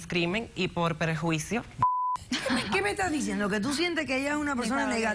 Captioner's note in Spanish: Bip